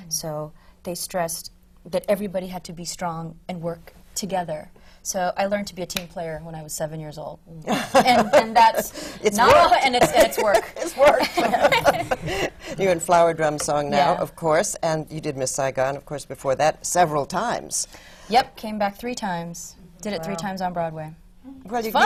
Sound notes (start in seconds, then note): 9.5 laughs